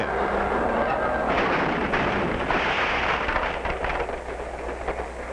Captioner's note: loud crashing